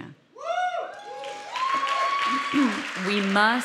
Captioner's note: audience cheering